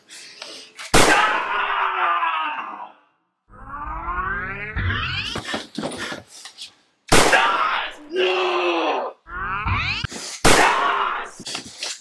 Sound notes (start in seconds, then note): 0.7 bang!; 7.0 bang!; 10.3 bang!